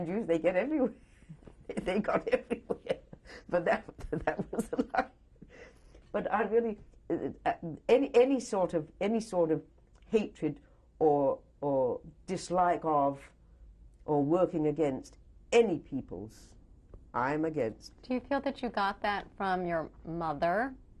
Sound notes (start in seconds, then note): 1.8 laughs